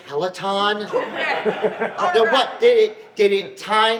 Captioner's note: audience laughs